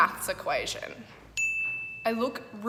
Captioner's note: dinging